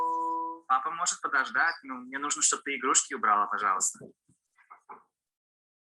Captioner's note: man speaking in foreign language